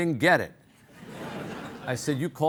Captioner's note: audience laughing